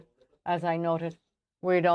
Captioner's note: speaking French